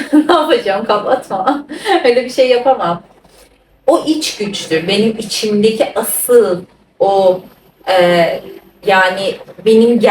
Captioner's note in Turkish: kahkaha